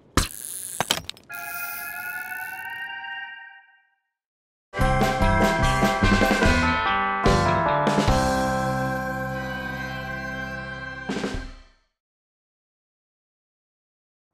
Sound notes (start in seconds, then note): 0.2 hook catches on ceiling; 1.6 tones going up in pitch